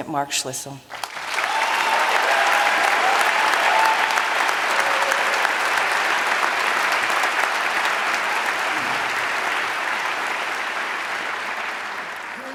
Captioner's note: applause